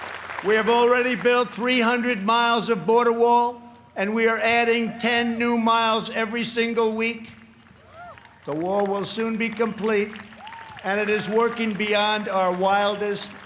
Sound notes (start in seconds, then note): 0.0 applause